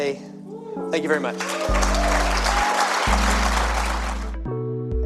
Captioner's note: applause